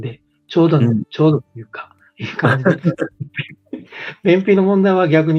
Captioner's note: laughs